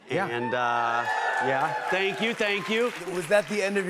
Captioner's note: cheers and applause